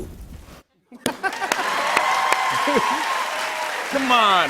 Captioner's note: cheers and applause